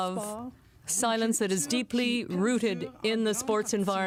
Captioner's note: speaking french